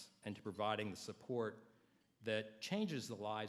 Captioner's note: none